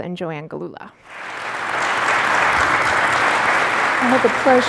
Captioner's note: clapping